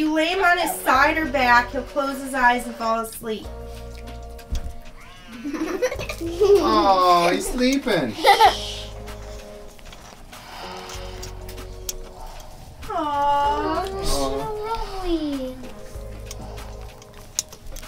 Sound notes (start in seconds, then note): 0.0 Rollie barks; 5.2 giggles; 5.5 toy machine whirs; 8.8 Rollie snores